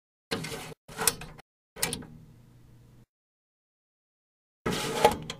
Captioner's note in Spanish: pause